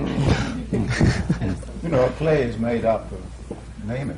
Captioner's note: laughter